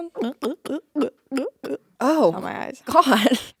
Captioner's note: Courtney gulping